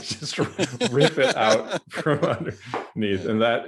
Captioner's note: laughs